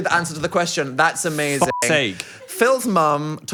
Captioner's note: beep